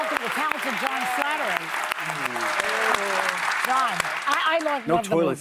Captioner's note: applause